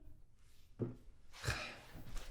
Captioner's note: sighs